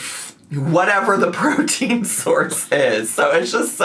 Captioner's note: laughs